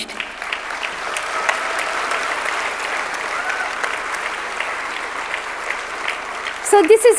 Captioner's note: audience clapping